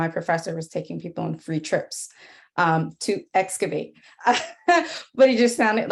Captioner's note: laughs